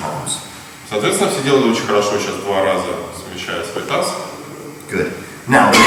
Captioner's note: speaking in a foreign language